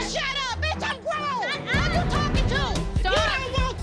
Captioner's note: arguing